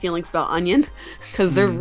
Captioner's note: chuckles